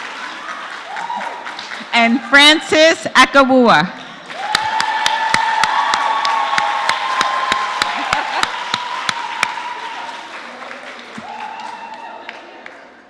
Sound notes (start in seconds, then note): 4.0 applause